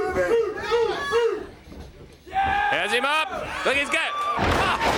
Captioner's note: crowd chatter